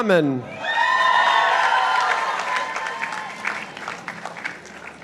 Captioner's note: participants applauding